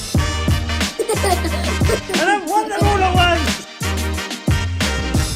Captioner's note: child playing and chatter